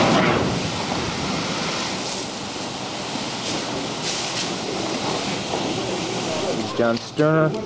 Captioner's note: water hose and overlapping voices